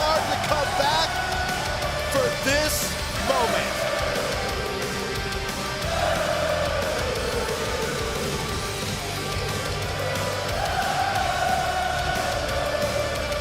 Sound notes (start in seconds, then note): 2.1 crowd cheering